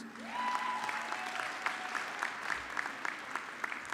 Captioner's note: audience clapping